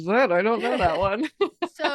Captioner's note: chuckles